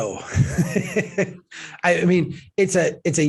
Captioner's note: laughs